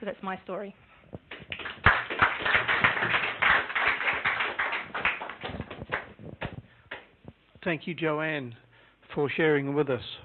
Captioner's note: clapping